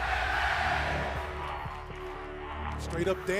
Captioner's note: fans chanting